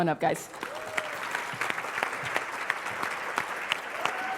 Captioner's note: applause